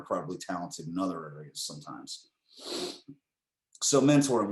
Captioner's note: sighs